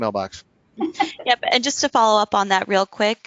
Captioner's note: laughs